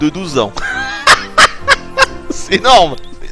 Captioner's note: laughs